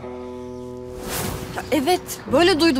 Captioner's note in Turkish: Efekt sesi